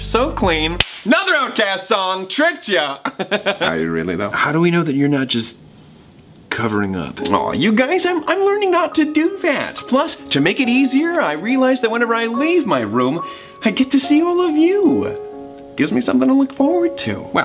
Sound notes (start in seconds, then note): 3.0 laughs